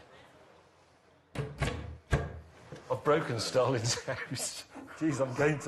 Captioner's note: thudding; laughter